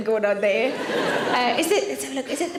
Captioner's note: audience laughs